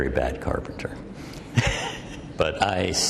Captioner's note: laughs